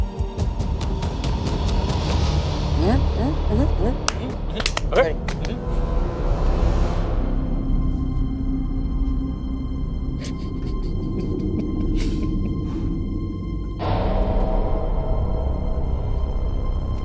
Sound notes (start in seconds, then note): 0.1 dramatic music continues; 2.8 humming; 7.0 dramatic music continues